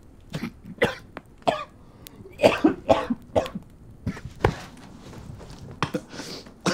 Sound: sputters and coughs

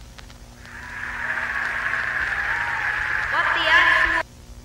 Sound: cheering starts again

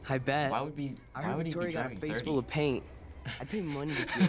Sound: laughs

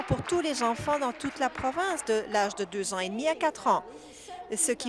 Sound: applause

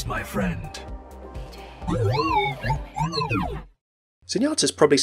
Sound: makes computer-like noises

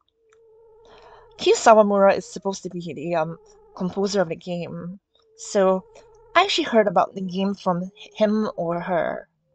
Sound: none

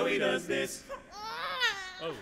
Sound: imitates crying baby

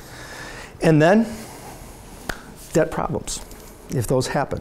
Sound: claps

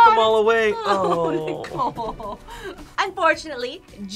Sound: laughs

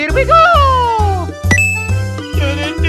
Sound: ding

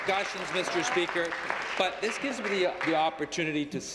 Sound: applause

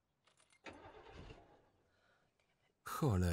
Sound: engine cranks

